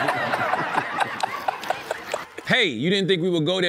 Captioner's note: laughing